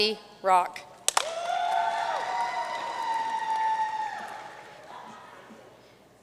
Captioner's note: audience cheering and applauding